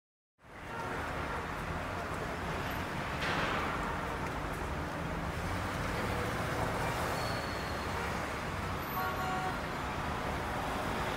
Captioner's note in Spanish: ambiente de tráfico